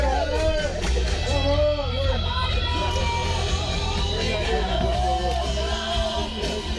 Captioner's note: clapping